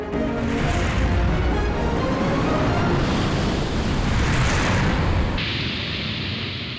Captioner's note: ice crashing